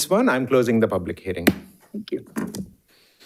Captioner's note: hammer slamming